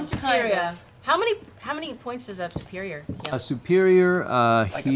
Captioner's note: none